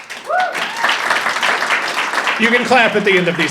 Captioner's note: audience applauding and cheering